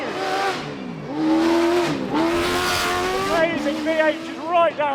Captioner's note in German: Motor heult auf